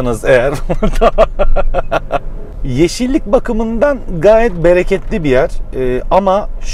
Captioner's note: laugh